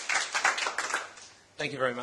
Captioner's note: applause